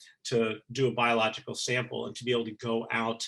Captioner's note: none